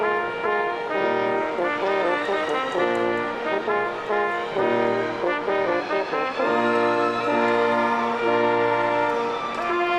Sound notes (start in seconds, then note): 0.2 stately music continues; 4.9 audience cheering